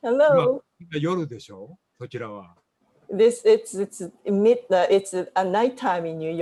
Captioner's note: speaking japanese